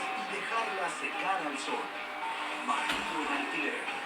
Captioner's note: TV playing in the background